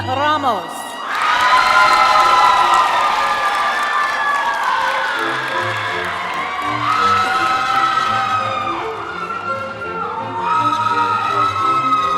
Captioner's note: cheering; screaming